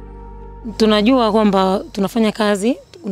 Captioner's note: she speaks in her language